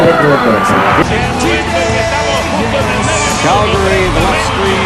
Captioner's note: Spanish